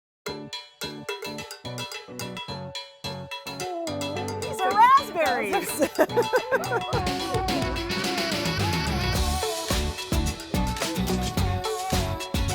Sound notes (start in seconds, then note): 0.0 upbeat music; 4.5 laughing; 7.9 upbeat music